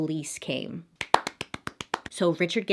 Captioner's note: clapping